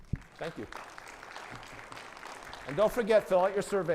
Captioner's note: audience applauding